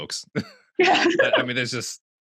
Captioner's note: laughs